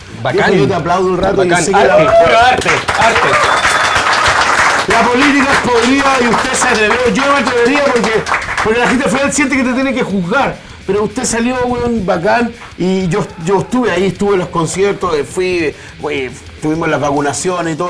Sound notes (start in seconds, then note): 1.9 applause